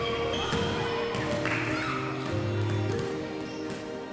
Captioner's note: children yelling